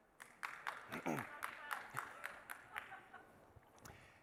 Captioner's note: person claps